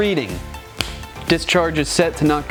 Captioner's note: snapping sound